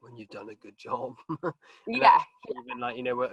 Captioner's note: chuckles